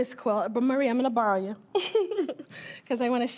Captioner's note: chuckling